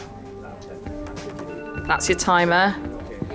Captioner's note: timer chimes